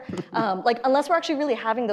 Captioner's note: laughs